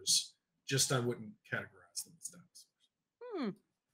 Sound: faintly speaking

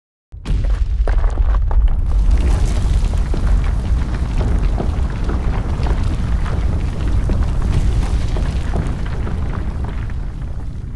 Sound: ground trembles

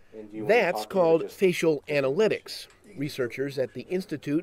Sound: voiceover

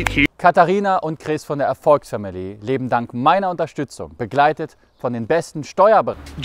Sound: speaking german

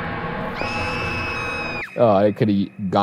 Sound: dramatic music continues; woman screams

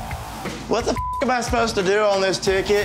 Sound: beeping

